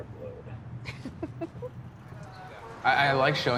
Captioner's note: giggles